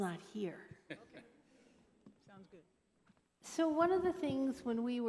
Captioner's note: laughter